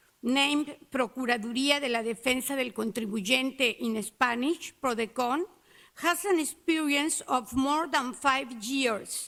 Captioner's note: Spanish